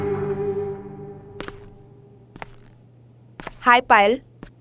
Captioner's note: Footsteps